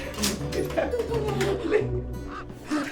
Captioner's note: ravens cawing